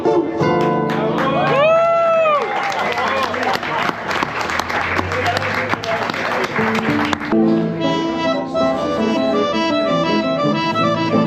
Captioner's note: applause